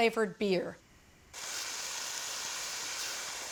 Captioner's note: sizzling